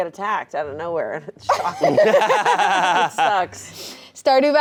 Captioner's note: laughing